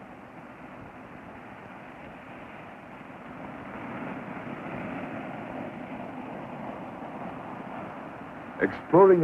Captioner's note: waves crashing